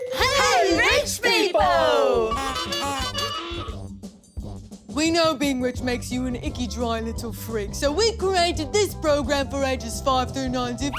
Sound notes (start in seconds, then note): 2.2 the Giggles; 2.3 horn honks